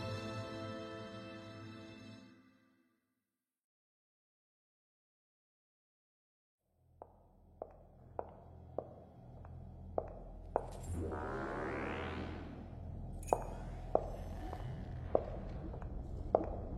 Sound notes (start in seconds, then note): 6.9 footsteps; 11.0 door opens; 13.2 footsteps